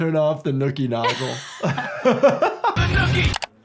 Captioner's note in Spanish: Ambos riendo